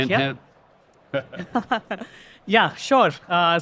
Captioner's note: laughter